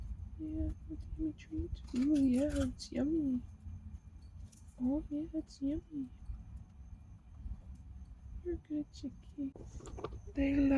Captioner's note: chicken eating noises